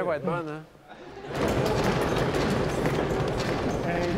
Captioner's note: laughs and cheers